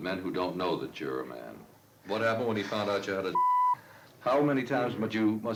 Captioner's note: beep